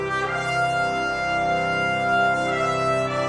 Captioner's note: none